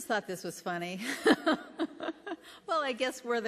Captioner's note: laughter